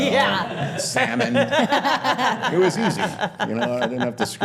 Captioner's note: all laughing